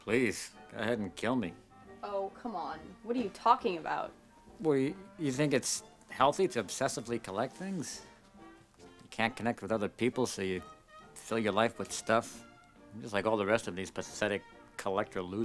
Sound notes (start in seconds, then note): none